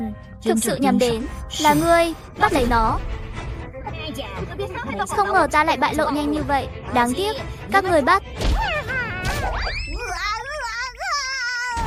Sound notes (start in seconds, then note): 4.6 heh heh heh